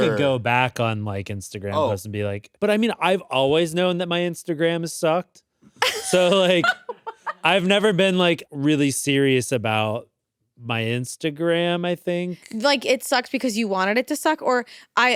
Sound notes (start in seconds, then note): 5.8 laughs